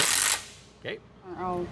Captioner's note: blank Audio